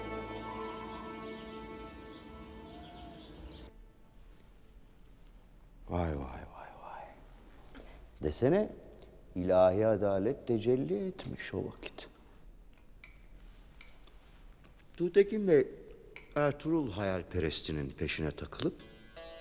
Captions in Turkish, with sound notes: (Kuş cıvıltısı sesleri) Vay, vay, vay. Desene ilahi adalet tecelli etmiş o vakit. Tuğtekin Bey, Ertuğrul hayalperestinin peşine takılıp...